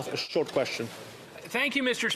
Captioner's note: speaking French